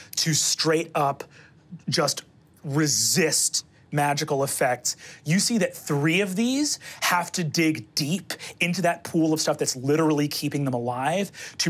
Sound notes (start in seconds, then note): none